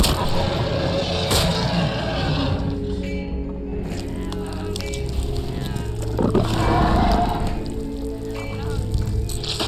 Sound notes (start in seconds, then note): 0.0 dramatic music; 0.1 roars; 3.8 groans; 4.8 dramatic music